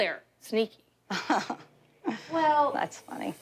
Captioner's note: laughs